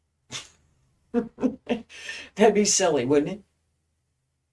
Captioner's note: laughing